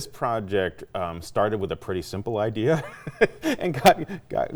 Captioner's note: laughing